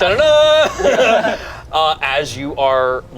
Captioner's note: group laughs